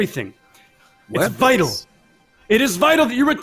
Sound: wolf mumbles

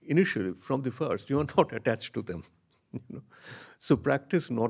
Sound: chuckles

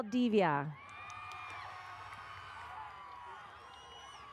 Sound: audience cheers

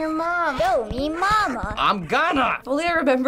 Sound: testily

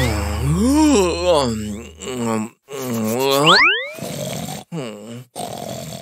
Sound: making happy sounds; yawns; sighs

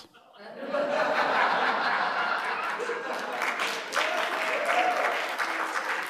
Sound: laughter; applause

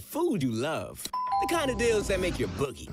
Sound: doorbell rings

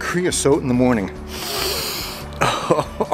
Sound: snifffs

